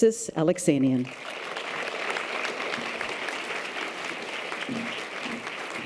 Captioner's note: audience applause